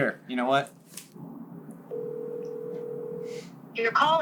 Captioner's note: ringing